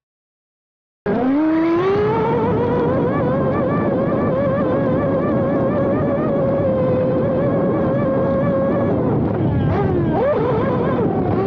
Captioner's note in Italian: engine sound